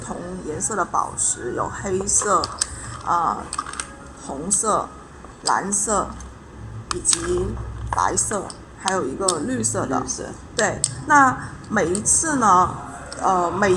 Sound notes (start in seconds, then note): 0.0 explaining in Chinese; 12.7 explaining in Chinese